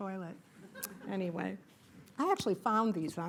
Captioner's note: laughter